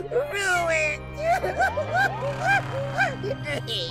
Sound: sobbing

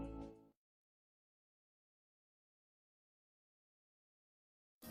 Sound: silence

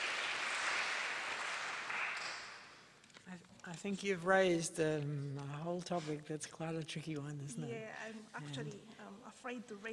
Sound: applause

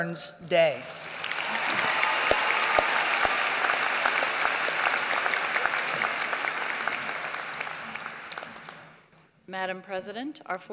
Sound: applause

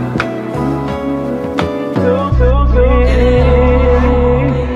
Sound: echoes

